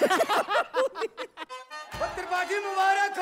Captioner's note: Laughs